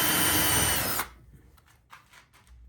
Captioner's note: drill whirring